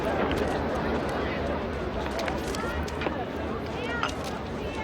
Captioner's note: none